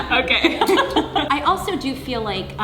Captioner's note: laughing